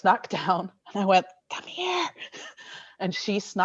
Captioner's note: whispering